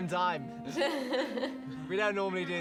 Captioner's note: laughing